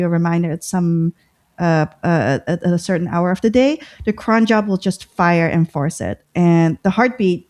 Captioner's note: uh